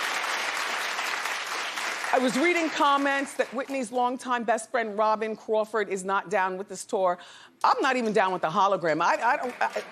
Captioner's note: applause